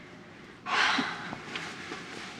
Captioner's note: sighs